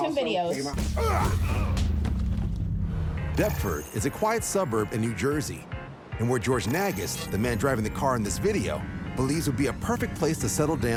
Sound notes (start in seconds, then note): 0.8 grunting